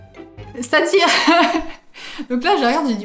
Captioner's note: laughs